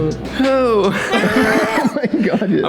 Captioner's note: death Squeal